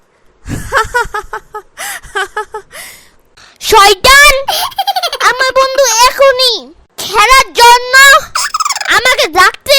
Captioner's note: laughter sound